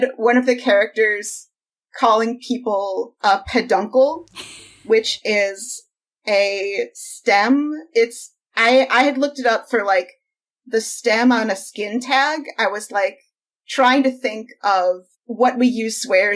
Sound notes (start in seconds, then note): 4.3 laughs